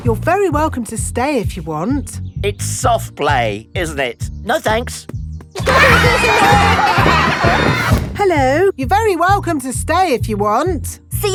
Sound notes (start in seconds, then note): 5.6 laughter